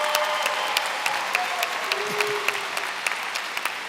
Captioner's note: applause